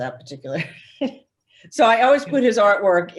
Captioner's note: laughs